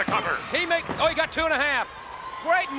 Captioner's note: hands thudding